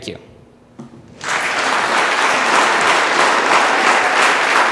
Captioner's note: audience applause